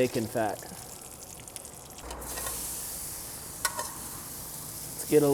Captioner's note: bananas sizzle